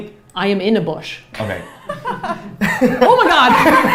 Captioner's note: laughs; all laughs